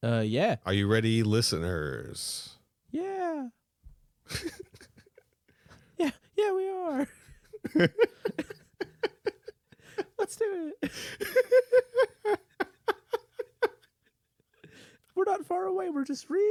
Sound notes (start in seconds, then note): 2.6 tiny voice; 4.3 uncontrollable laughter; 4.6 tiny voice